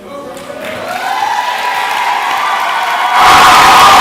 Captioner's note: clapping